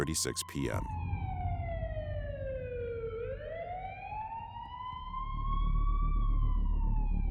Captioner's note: sirens